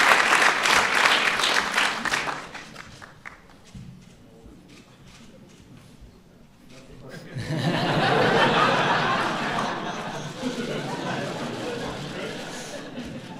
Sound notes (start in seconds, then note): 2.5 applause; 9.2 applause